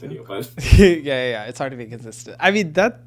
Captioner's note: laughing